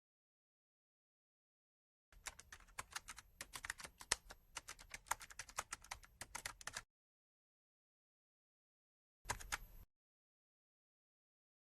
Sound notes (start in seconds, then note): 4.5 typing sound effect